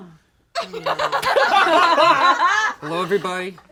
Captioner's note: people laugh; all laugh